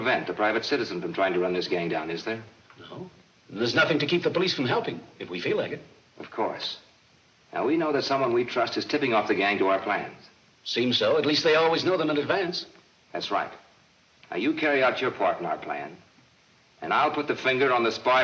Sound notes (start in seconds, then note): none